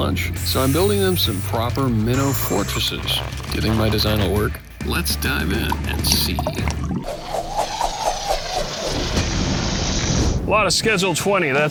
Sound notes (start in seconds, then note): 6.3 swoosh, swoosh swoosh; 8.6 boom